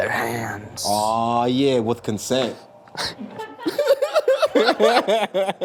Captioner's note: laughs